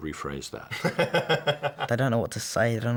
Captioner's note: laughs